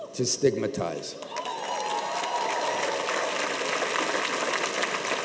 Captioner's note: cheers and applause